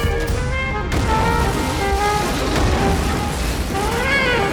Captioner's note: car crashing